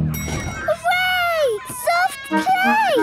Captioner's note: dinging